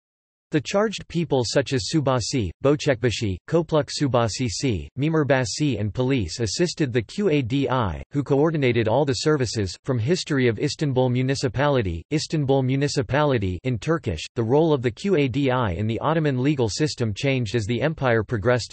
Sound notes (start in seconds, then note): 13.6 in Turkish